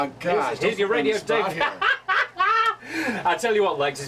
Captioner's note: laugh